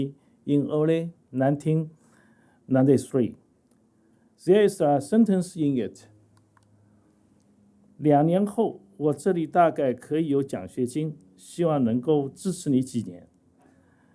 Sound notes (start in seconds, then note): 7.8 speaking chinese